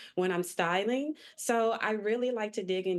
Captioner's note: none